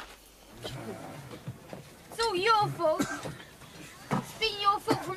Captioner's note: man groans